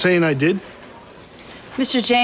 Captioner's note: none